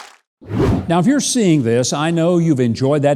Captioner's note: audience applauding; wind whooshing